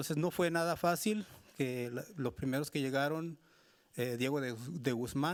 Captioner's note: speaking Spanish continues